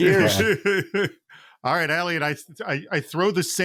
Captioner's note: laughs